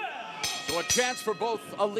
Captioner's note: bell ringing